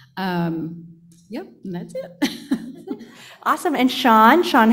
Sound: chuckling

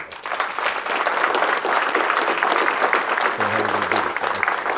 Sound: audience clapping

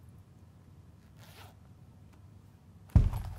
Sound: sound of zip opening

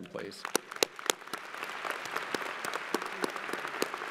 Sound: crowd applauding

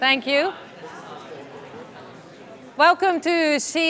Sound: audience commotion

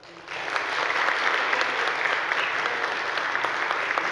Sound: audience applauding

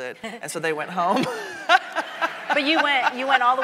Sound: laughs; audience laughing

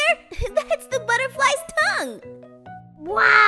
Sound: laughs

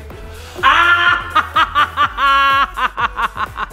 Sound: laughs loudly

